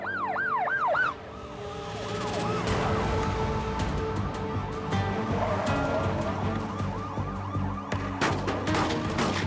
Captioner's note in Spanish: sirenas